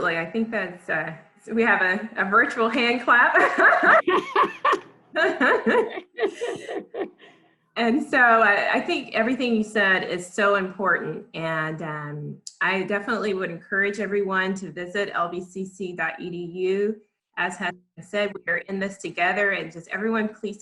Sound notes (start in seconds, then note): 3.4 laughs